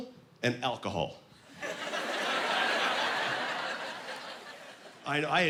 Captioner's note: laughing